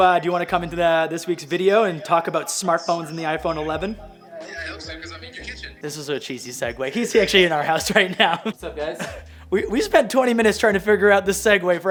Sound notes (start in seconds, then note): 6.8 chuckles